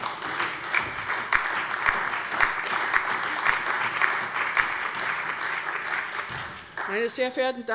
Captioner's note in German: Beifall bei Abgeordneten der CDU